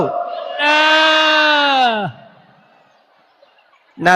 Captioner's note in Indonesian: berteriak